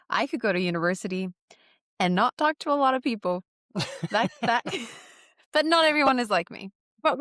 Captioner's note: laughter